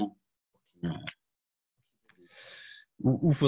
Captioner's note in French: coupure audio